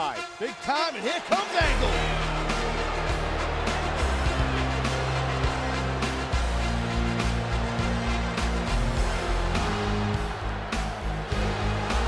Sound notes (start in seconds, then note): 2.8 audience jeering; 5.6 upbeat music